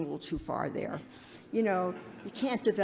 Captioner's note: audience laughs